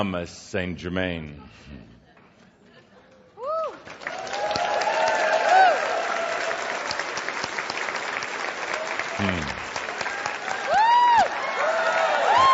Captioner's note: spreads his arms wide to much applause and cheering